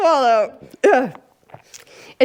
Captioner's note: coughs